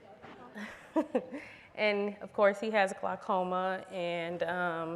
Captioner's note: laughs